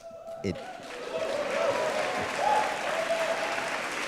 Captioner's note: applause